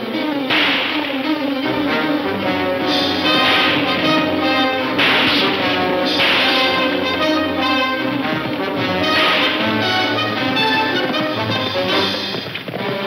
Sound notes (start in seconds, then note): 7.6 hooves thudding